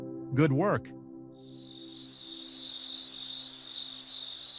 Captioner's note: crickets chirping